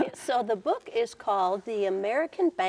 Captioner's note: laughing